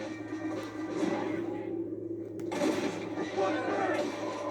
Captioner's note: sounds of composure and tires